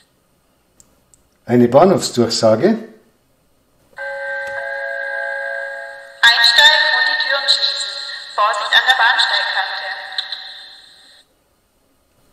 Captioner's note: gong